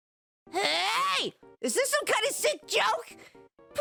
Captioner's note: yelling